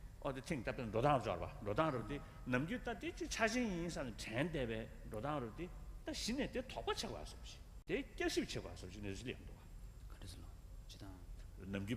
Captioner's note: foreign words